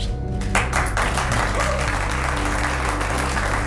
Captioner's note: applause, whooping